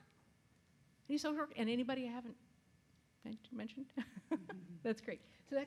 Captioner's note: laughs